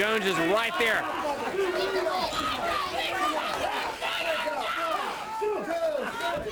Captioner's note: crowd chatter